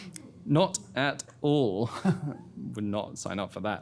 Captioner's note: chuckles